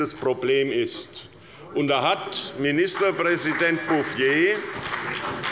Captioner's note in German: Beifall bei der SPD und der FDP